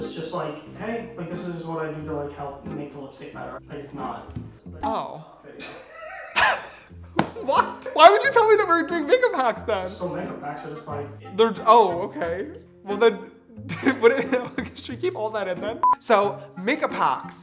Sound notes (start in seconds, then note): 5.6 laughing; 13.7 laughs